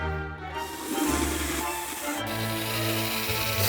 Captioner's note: drill whirring